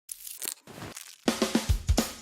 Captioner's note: foods crunching